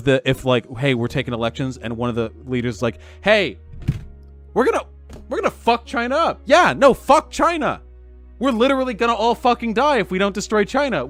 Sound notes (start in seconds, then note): none